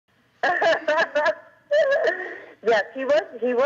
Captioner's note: laughing